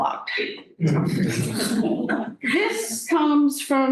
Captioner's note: laughter